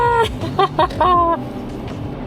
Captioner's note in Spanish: Risas